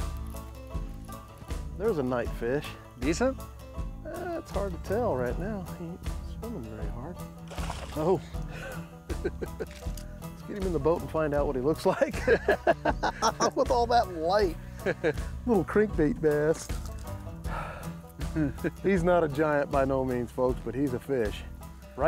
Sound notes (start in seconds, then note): 8.4 laughs; 11.8 laughter